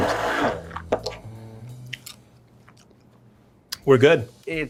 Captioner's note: blender whirling